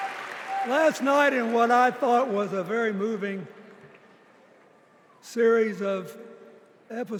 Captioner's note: cheers and applause